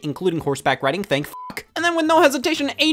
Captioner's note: beep